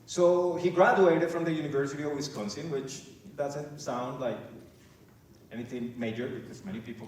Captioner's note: none